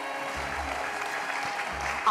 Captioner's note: applause